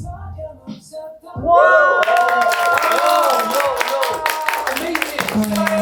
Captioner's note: cheering even louder than the rehearsal